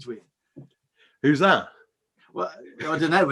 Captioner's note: laughs